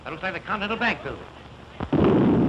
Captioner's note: boom